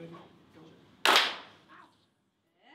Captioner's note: clap